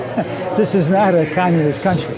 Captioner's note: laughing